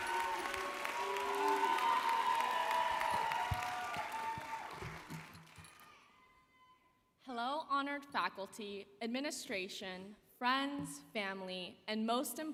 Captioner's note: cheers and Applause